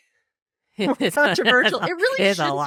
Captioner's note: both laughing